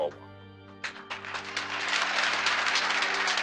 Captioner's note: audience applauding